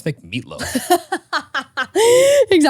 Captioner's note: laughing